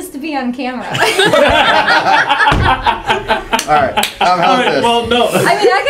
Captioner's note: laugh